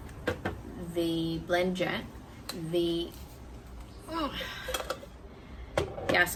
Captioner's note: grunts with effort